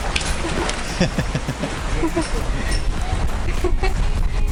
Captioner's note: laughs